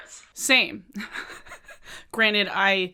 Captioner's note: chuckles